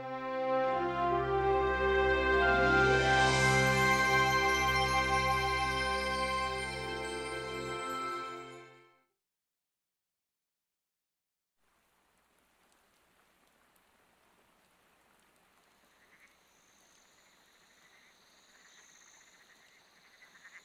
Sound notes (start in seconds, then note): 0.2 dramatic music; 11.6 rain pattering